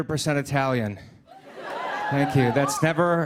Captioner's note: laughter